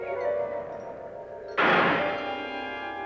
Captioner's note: bang